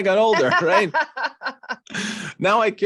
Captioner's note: laughter